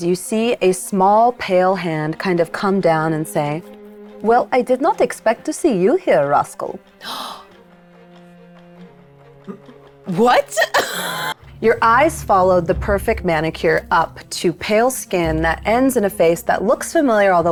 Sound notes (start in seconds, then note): 7.2 gasps; 10.8 laughs